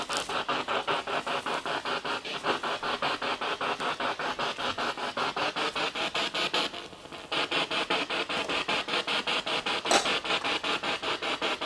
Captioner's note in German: Noise of the spiritbox in the background